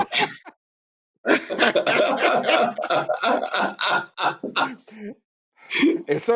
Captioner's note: all laughing